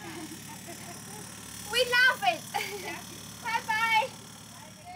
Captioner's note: laughing